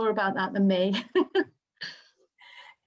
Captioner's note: laughs